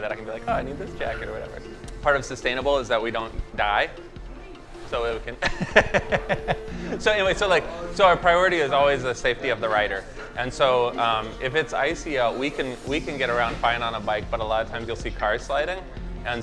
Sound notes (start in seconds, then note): 5.4 laughing; 7.5 murmuring